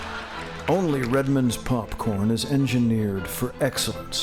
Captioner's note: laughter